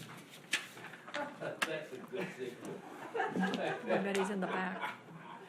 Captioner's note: audience chattering and laughing